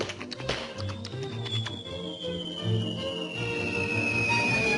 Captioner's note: whistling